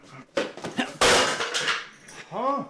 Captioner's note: A loud crash as the box hits the floor